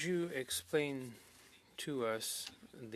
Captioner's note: speaking French